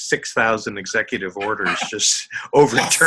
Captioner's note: laughing